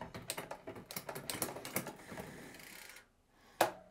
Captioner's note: shifting the gears on a bike